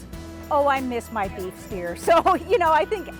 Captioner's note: laughing